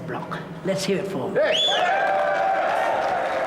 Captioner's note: cheering and applause